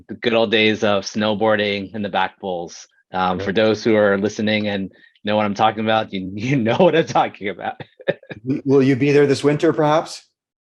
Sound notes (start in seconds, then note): 8.1 laughs